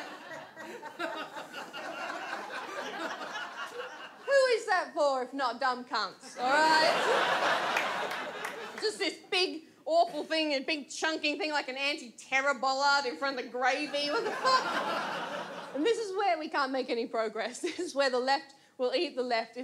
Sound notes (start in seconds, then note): 0.0 audience laughs; 6.4 audience laughs; 14.0 audience laughs